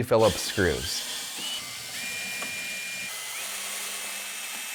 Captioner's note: drill buzzing